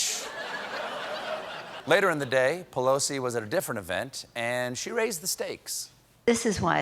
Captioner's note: laughter